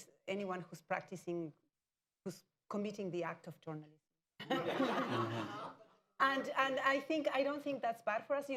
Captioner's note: laughter